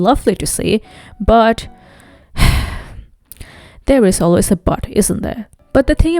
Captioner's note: sighs